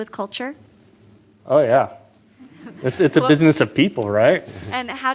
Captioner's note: laughter